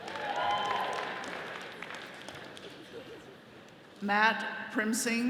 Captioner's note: attendees cheering